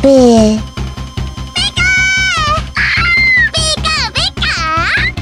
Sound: scream

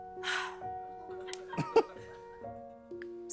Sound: sighs; chuckles

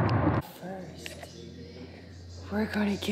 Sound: news cast playing in the background

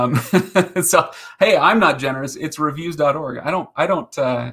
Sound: laughing

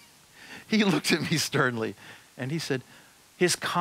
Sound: chuckles

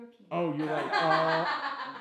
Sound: laughs

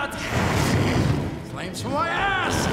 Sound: flames whooshing

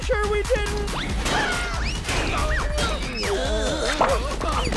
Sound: screaming

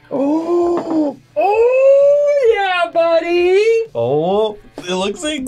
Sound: gasps

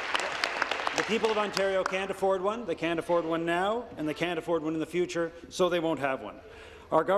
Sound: applause

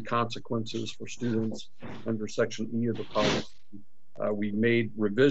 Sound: voice distorted

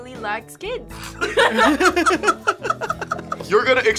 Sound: all laughing

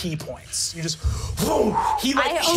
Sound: whooshing

